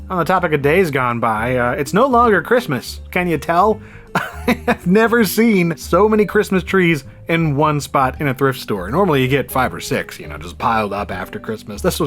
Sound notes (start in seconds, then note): 4.1 laughs